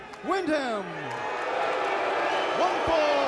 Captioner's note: fans cheering